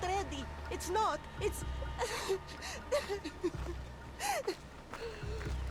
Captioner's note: sobbing